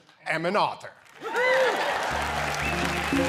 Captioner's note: cheering and Applause